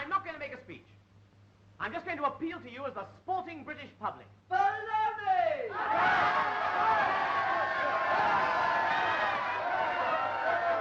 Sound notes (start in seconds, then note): 5.6 cheering